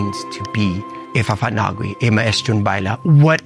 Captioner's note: in native chamoru